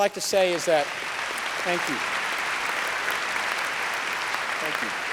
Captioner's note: applause